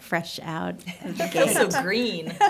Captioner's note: laughter